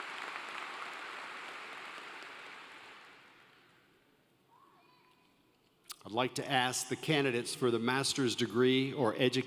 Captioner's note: applause